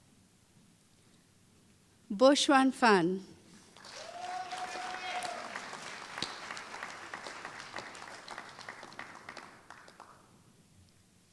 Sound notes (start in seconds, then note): 6.7 applause